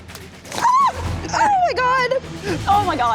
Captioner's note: shrieks